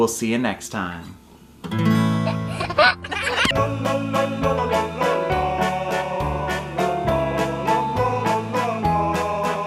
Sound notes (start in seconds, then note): 2.2 laughter; 4.1 cheerful music